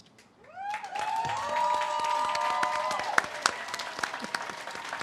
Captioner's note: audience cheers and claps